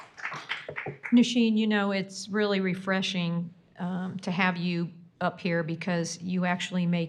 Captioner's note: applause